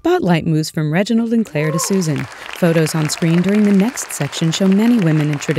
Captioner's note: applause, cheers